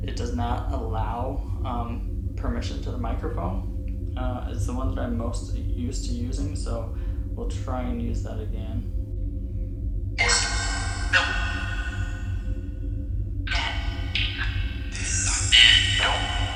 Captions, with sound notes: it does not allow permission to the microphone, as the ones that I'm most used to using, so we'll try and that again. (chanting)